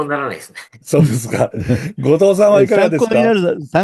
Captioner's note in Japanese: 笑い